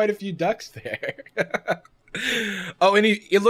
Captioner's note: laughs